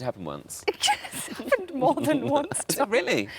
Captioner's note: laughs